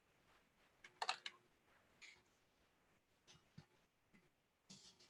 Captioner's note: keyboard tapping